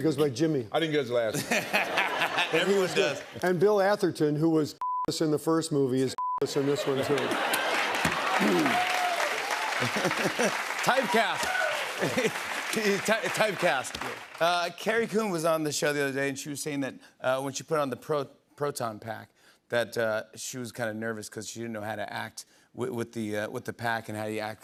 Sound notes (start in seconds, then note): 6.4 laughter, applause; 8.4 clears throat; 9.6 laughs